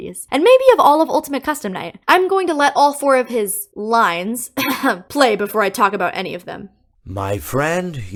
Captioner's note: cough